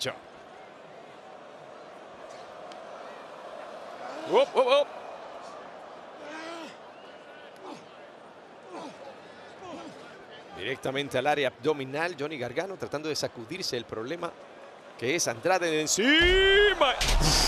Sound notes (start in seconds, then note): 1.2 applause